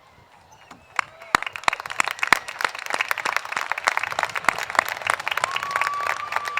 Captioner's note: applause